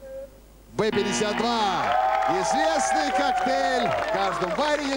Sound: applause

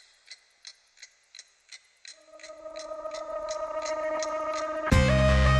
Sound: clock ticking

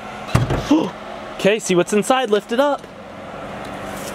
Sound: gasps

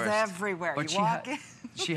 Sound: laughter

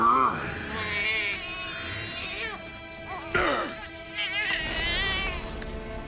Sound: baby crying

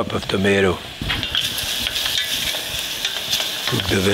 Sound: vegetables sizzle

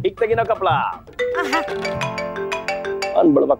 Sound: phone rings

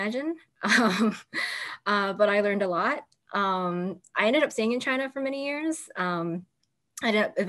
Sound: laughter

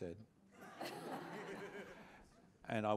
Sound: laughter

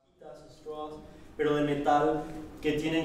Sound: professor speaking Spanish

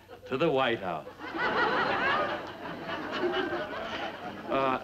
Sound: audience laughs

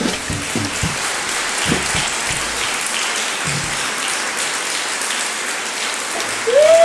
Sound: polite audience clapping; Desert Rats cheering loudly

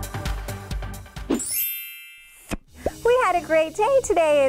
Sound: electronic ringing

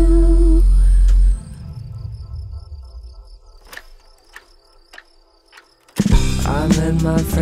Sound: crickets sing & clock running

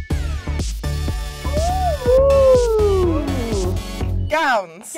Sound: whoop

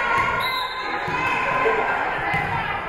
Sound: spectators shouting encouragements; whistle being blown; spectators shouting encouragements

